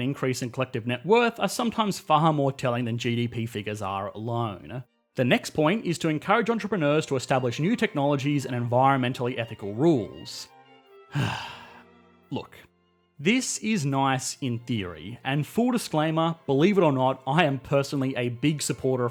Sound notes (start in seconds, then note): 11.1 heavy sigh